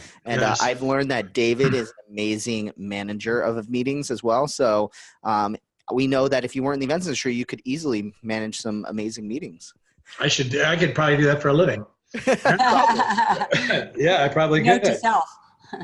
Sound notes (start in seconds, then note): 12.2 laughs